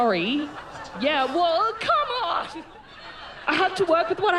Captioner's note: laughter